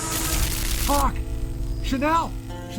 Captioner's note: crackling